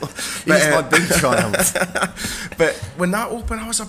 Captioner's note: laughing